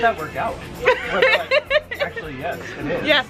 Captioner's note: laughing